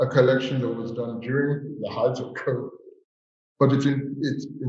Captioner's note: chuckles